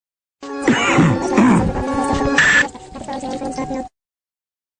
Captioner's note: sound of a man's coughing